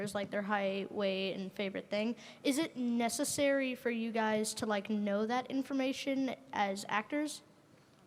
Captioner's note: none